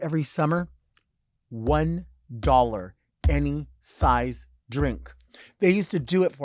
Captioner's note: hand thudding